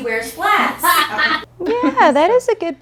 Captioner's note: all laugh